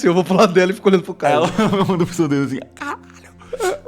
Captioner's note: laughs